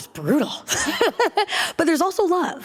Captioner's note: laughter